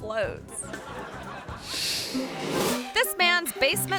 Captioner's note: audience laughing